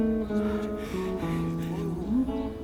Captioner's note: panting